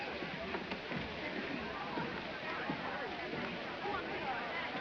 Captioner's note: chatter